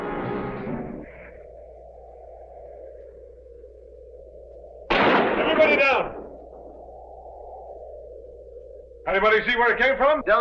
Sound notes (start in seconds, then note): 4.9 gun firing